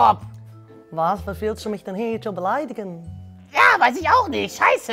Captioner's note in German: verstellte Stimme; holländischer Akzent